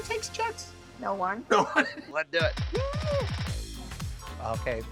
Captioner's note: laughs; upbeat music